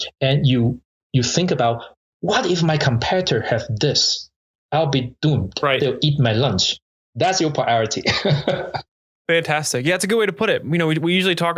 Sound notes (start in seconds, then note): 8.0 laughs